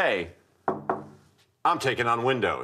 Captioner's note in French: knocks